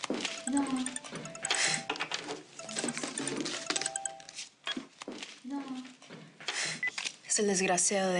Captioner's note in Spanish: Suena un celular